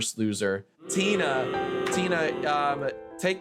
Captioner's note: children booing